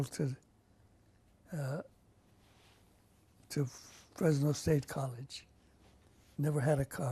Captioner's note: pauses for 3 seconds